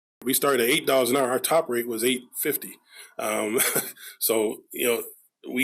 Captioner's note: chuckles